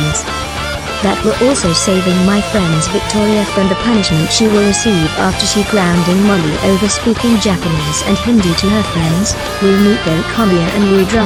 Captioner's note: laughs